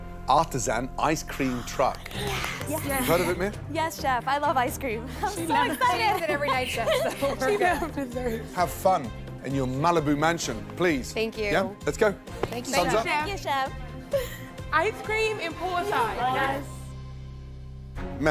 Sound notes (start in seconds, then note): 1.4 gasps; 5.6 laughing